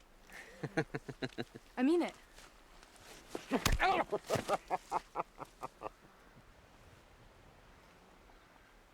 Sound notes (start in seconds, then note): 0.1 man laughs; 3.8 man grunts